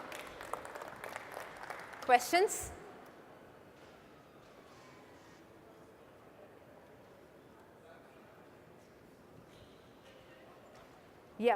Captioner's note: applause